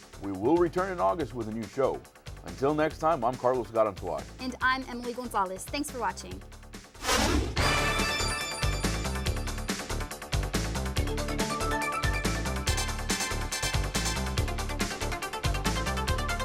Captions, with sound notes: - We will return in August with a new show. Until next time I'm Carlos Garanzuay. - And I'm Emily Gonzalez. Thanks for watching. (whooshing) (fast techno music)